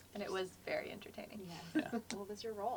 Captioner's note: laugh